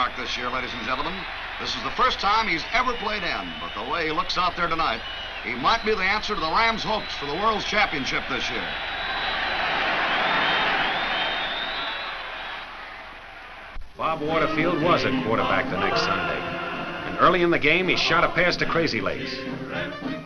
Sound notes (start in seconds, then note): 9.2 crowd cheers